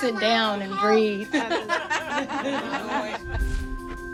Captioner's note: laughing